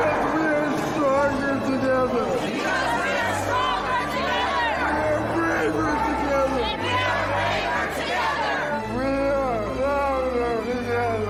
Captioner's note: chanting